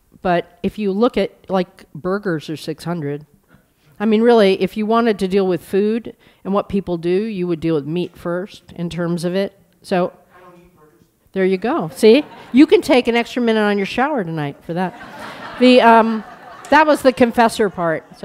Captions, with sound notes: But if you look like burgers there's 600. I mean really, if you really wanted to deal with food and what people do, you would deal with meat first in terms of it. So-- >> I don't eat burgers. >> There you go. See [laughter]. You can take an extra minute on your shower tonight for that [laughter]. That was the confessor part.